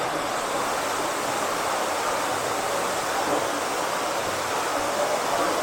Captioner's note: water rushing